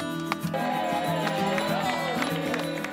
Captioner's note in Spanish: Clamor e timbres de bici